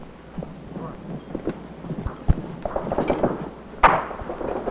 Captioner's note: gunshots firing; yelling